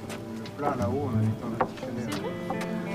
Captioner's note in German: Sie sprechen auf Französisch